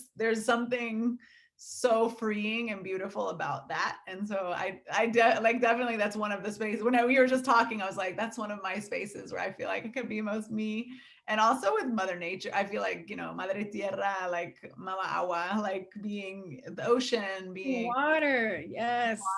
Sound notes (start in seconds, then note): 14.0 speaking foreign language